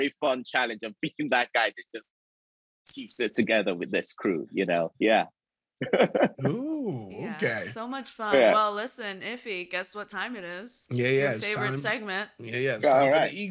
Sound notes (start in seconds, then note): 5.8 Chukwudi giggles